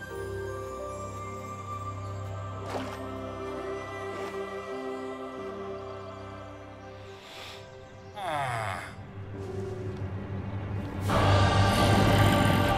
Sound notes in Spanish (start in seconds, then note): 0.2 música tranquila; 8.2 suspiro; 10.6 música dramática